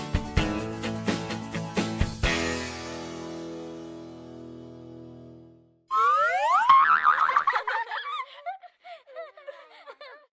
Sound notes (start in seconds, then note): 5.9 boing, laughing